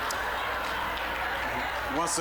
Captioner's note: audience laughing